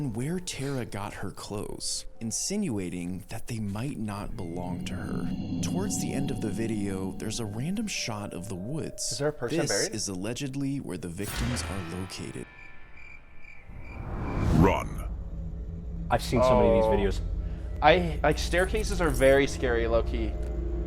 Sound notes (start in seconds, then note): 12.5 crickets chirping